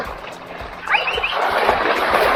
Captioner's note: whistles at the dogs